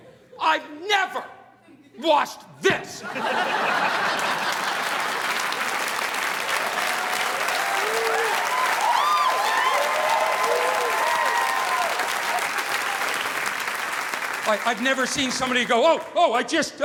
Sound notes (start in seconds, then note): 3.0 audience laughing; 3.5 audience applauding